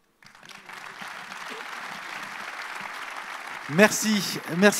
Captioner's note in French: Applaudissements